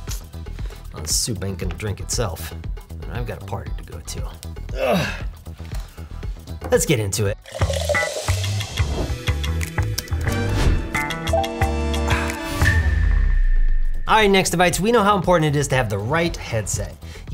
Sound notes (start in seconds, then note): 5.9 grunts; 8.3 upbeat music